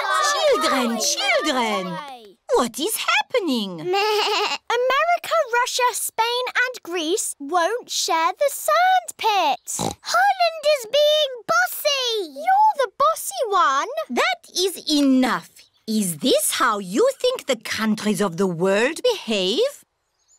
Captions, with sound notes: Children, children! What is happening? (BLEATS) America, Russia, Spain and Greece won't share the sandpit. (OINKS) Holland is being bossy! -You're the bossy one! -That is enough! Is this how you think the countries of the world behave?